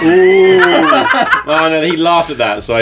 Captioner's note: laughing